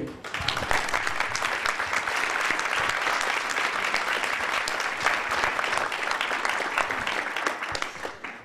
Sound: applause

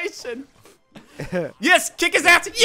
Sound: chuckling

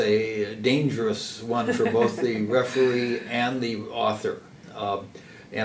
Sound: laugh

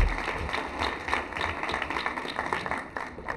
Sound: applause

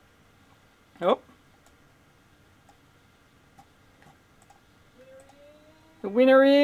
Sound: mouse clicking

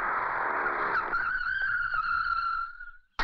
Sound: tires Screeching

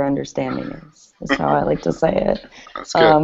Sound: laughter

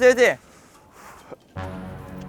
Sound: breathing deeply

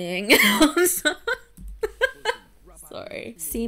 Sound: laughing

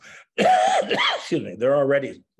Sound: coughs

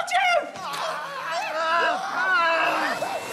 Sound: screams

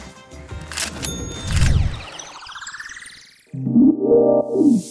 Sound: ka-ching; upbeat music

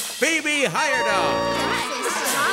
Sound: cheering

